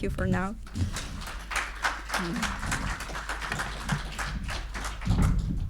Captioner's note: audience applauding